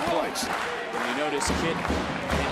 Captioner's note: crowd cheers